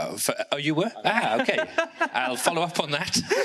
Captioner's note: laughs